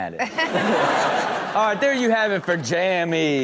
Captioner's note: everyone laughs